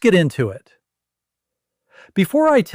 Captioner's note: pause